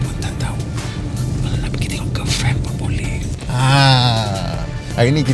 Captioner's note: whispering